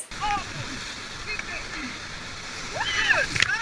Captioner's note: yelling